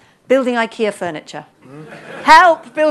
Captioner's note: laughter